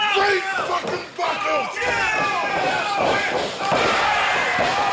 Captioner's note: crowd clamoring